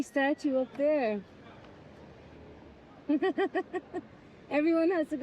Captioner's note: laughing